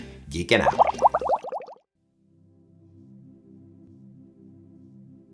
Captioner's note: water bubbles bubbling